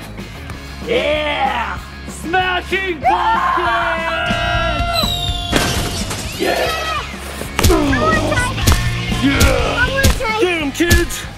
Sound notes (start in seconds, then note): 3.1 screaming; 5.5 pumpkin thudding; 5.5 upbeat music; 7.4 grunting; 10.0 feet thudding